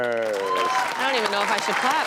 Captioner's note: audience applauds and cheers